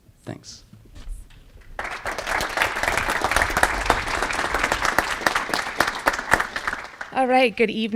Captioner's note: applause